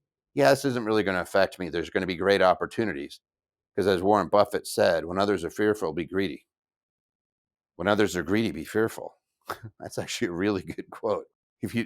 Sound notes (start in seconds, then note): 9.5 chuckles